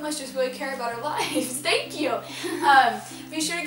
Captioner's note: laughing